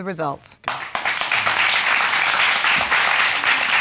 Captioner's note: audience applauding